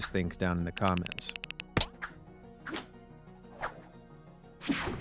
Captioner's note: text typing